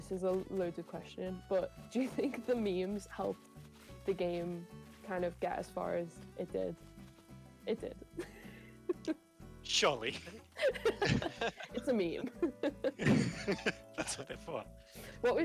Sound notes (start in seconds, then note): 10.1 laughs; 10.5 laughter